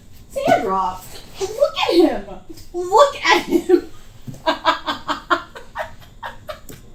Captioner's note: laughs